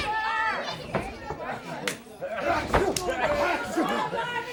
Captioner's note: crowd chatter